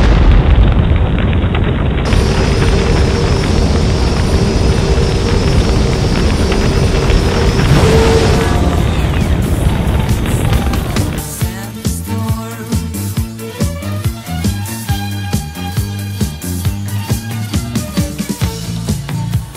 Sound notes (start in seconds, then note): 0.0 explosion; 2.0 vehicle moving